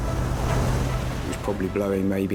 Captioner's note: dramatic music; waves crashing